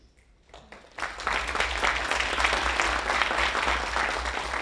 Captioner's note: audience applauding